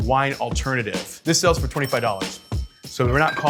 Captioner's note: register bell rings